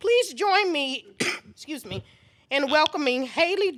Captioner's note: coughs